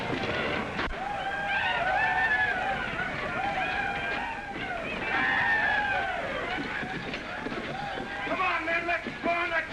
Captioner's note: men whooping & chaos